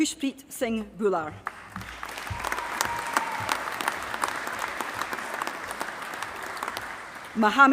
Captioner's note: applause